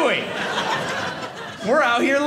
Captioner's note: audience laughing